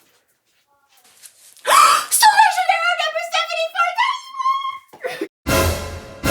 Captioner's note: gasp